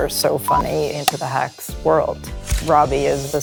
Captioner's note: clapperboard shuts